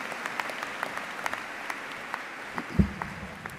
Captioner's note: applause